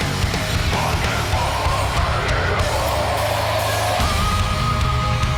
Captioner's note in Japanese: 稲子:デスボイス加工音声